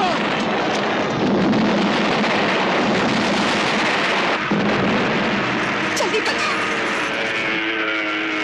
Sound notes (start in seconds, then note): 4.4 explosion